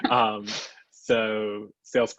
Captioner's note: both laugh